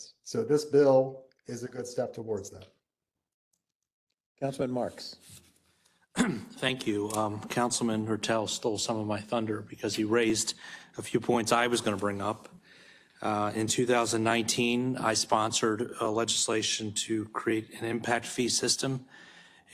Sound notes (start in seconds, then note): 6.1 cough